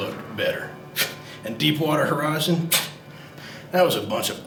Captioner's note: scoffs; scoffs